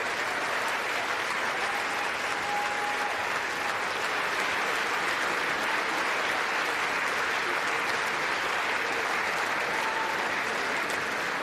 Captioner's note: applause